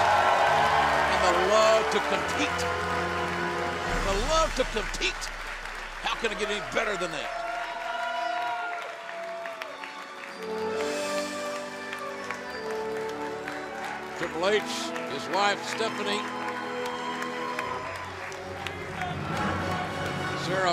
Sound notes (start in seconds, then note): 2.3 cheers and applause